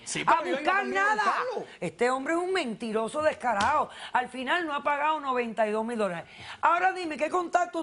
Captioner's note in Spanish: Hablan al unísono